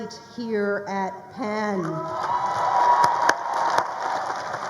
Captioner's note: crowd applauding